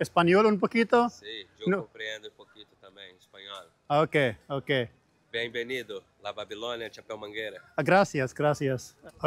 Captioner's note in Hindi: स्पेनिश में बोलते हुए